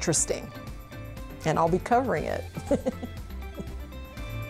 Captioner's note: laugh